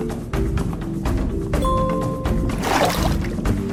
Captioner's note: chime; fishing bobber splashes